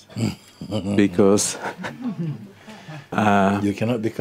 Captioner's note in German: Mooji kichert